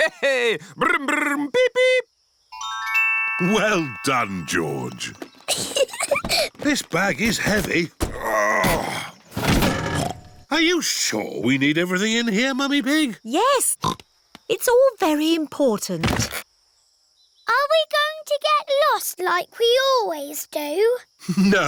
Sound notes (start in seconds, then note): 5.4 peppa giggles; 8.0 grunts; 10.3 snorts